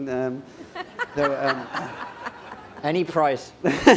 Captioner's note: laughter